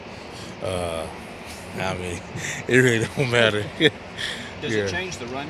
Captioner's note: chuckles